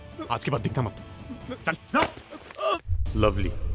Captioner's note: Screams